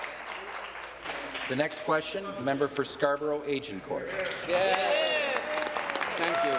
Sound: applause

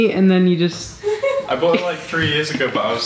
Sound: laughs

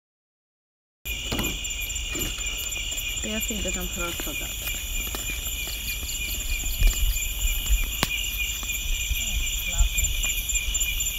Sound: sound of night

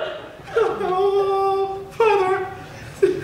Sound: wails

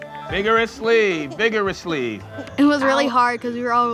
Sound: laughter & swishing sounds

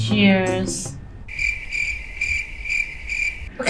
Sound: crickets

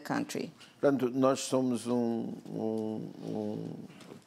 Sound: speaking portuguese

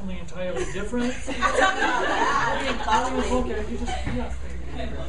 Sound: laughing

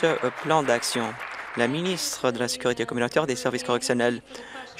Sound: applause

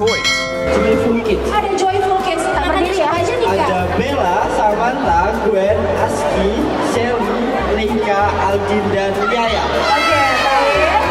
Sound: MC announcing Joyful Kids member

